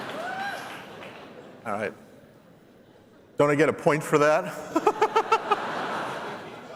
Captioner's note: laughter